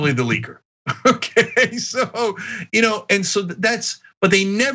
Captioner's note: laugh